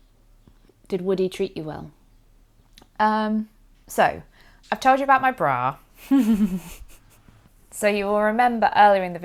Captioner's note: giggles